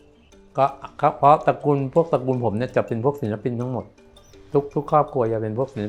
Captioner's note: speaking foreign language